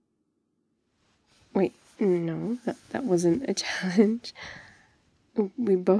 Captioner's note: suspicious shuffling